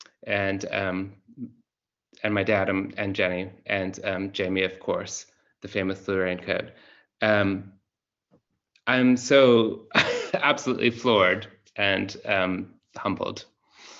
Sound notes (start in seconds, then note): 9.9 laughs